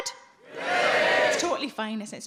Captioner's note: audience cheers